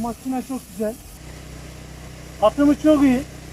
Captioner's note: the sound of the sprinkler while spraying